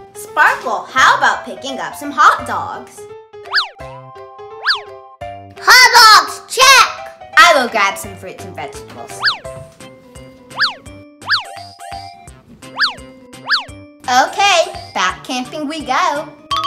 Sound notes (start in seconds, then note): 3.5 swish; 10.6 swish